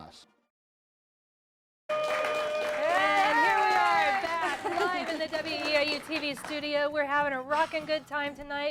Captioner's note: �applause�